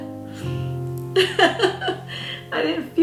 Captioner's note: tearful chuckle